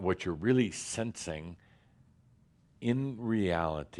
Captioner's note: none